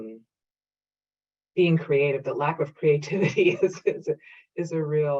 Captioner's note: laughing